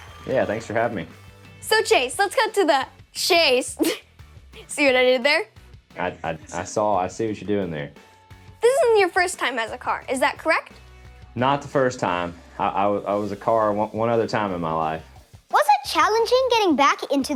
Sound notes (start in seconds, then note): 3.8 chuckles